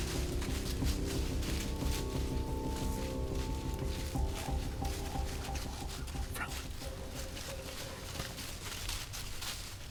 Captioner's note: whispering